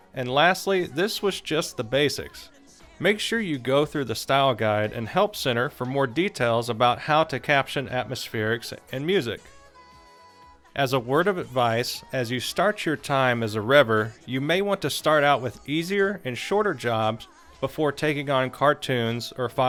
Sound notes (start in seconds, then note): none